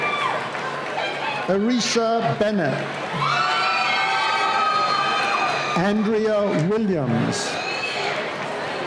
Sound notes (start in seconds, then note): 3.7 cheering